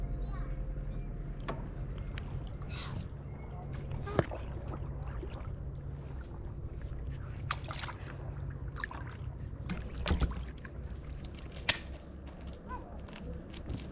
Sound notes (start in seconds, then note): 7.8 water lapping